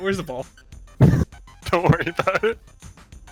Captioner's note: laughs